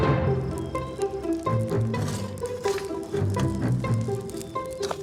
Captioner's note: fire crackling